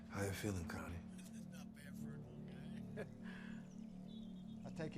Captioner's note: chuckling